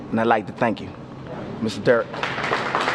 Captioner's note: applause